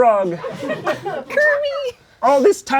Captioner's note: crowd laughing